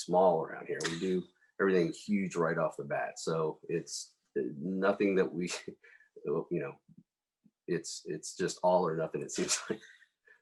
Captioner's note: laugh; laughs